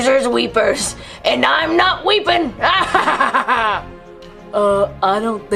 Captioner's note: laughs